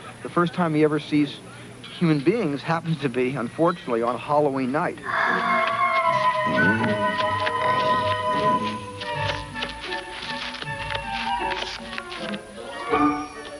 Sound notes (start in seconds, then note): 6.4 E.T. grunting; 10.5 whimsical music